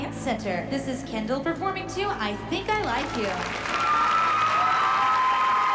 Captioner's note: cheering